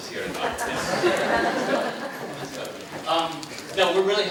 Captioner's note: audience laughing